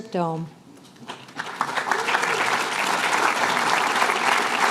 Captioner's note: applause